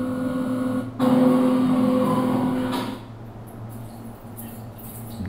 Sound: kitchen sounds

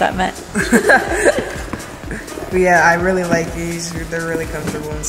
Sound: laughs

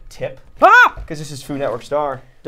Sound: shrieking

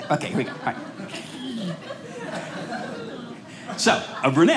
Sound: audience laughing

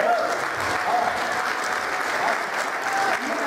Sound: applause

